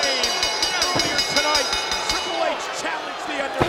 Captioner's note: bell ringing